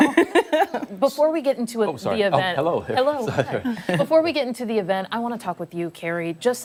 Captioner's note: laughter